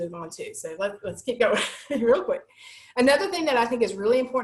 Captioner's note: laughter